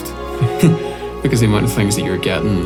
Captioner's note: laughs